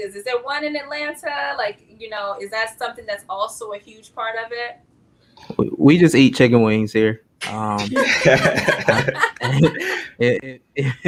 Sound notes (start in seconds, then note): 7.8 laughing